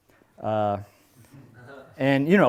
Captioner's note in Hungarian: nevetés